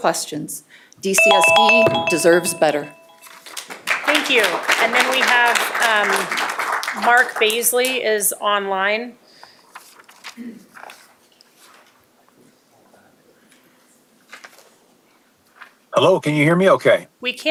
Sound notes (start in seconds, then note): 7.3 applause